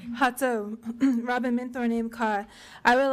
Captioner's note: speaking in foreign language